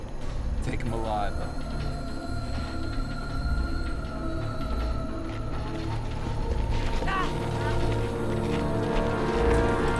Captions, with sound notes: Take him alive, though. (yelling)